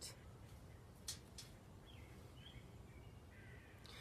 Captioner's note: birds chirping